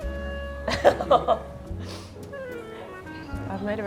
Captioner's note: laughs